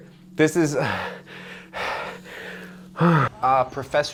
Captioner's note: gasping